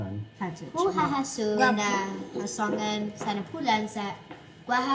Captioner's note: child speaks in CHamoru